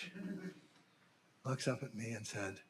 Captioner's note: audience laughing